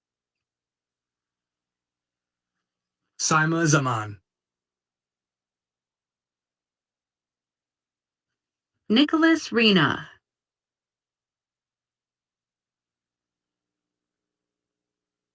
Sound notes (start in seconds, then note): none